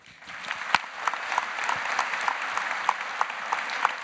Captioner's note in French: Applaudissements